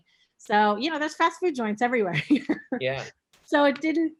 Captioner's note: chuckling